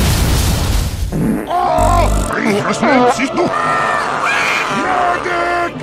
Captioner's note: heavy Farts while he's in Pain!